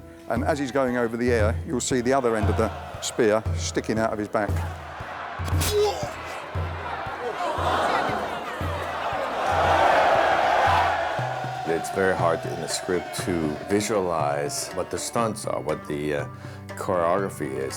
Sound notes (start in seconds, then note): 5.6 groans; 7.6 crowd gasps